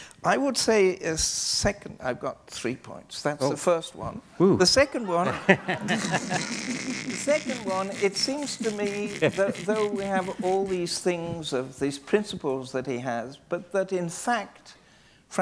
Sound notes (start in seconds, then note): 5.2 laughing